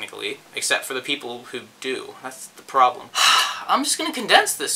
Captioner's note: sighhhh